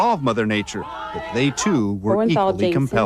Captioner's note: shouting